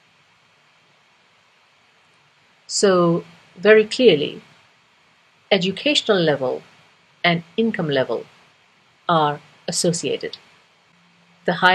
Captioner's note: pause